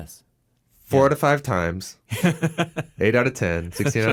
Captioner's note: laughing